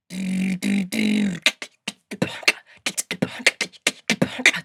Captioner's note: beatboxing